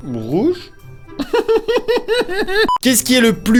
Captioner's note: giggle